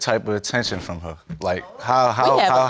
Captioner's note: audience exclaims